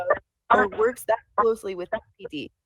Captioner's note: ~interference~